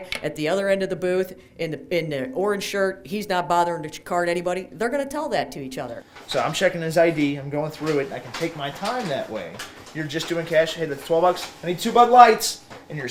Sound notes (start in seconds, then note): none